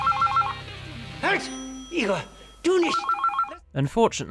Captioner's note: german